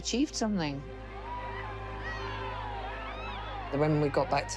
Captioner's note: crowd cheers